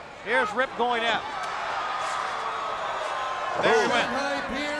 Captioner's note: crowd yelling